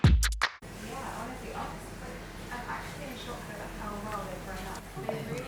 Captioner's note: upbeat music; background talking